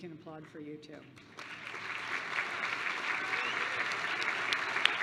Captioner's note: applause